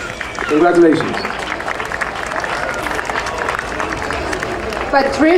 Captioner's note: audience applauding